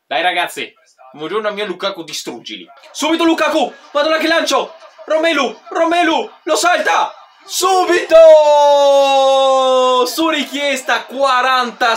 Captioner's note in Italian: Applauso